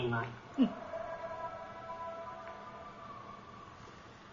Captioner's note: howling